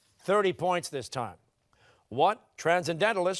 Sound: none

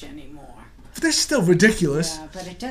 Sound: voiceover

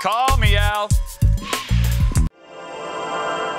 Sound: blows

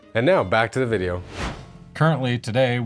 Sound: air whooshes

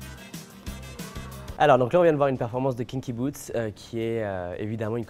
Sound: speaking French

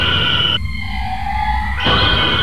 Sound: audible Weeping; audible Rage

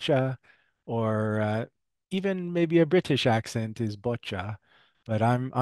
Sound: in English; British accent

